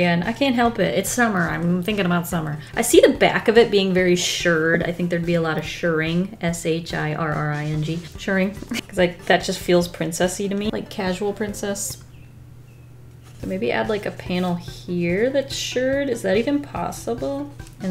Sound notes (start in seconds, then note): 11.9 bird tweets